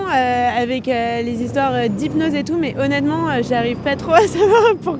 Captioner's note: laughs